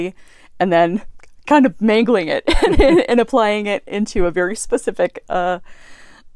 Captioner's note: laugh